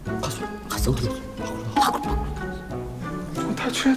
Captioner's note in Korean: 속삭이는 소리